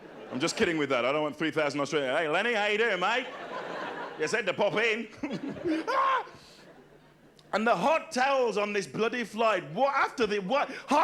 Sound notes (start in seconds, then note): 5.8 shrieks